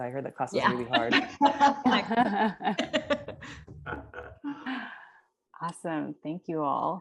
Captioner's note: laugh